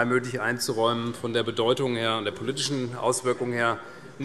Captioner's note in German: none